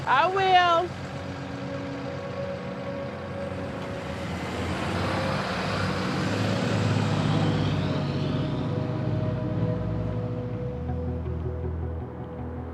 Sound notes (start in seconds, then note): 1.4 soft music; 5.0 bus engine roaring; 8.6 soft music